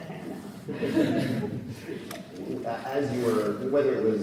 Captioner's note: audience laughs